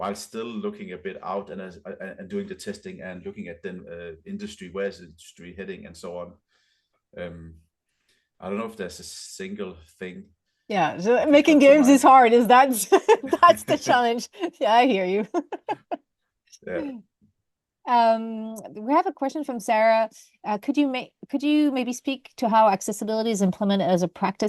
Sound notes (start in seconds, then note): 12.8 laughter; 12.9 laughs